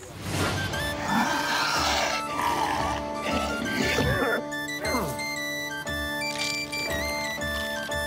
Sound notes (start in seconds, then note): 0.9 muted growl; 4.1 cough